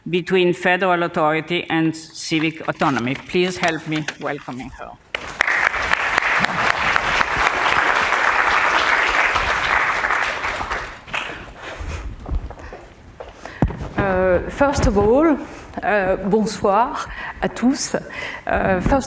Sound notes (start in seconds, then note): 5.1 applause; 17.3 speaking french